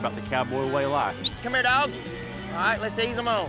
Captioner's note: whistles